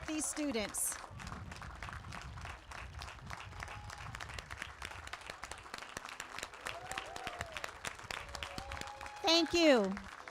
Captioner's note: applause